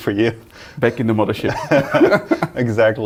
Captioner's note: both laughing